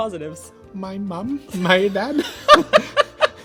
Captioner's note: soft voice